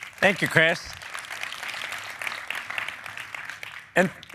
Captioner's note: applause